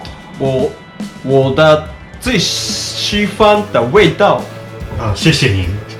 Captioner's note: speaking Mandarin